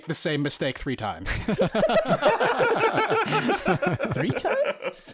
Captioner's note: laughter